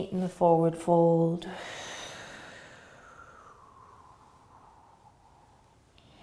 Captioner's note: exhaling